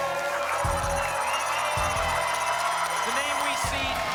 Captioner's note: applause and cheering cont; spinning sounds